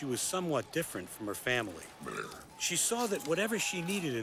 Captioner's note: belches